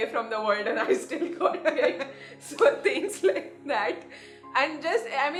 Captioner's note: laughs